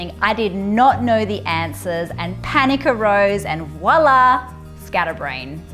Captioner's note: none